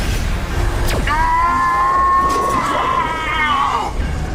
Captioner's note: yells